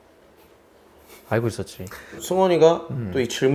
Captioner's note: haha